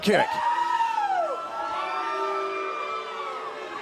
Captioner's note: crowd cheering